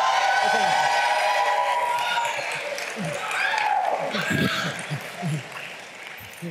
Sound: cheers and applause

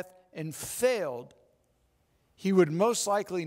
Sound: none

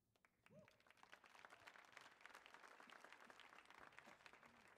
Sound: audience applauds

